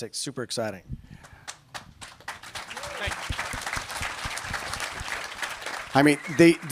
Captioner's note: applause